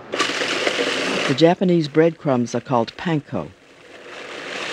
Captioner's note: voiceover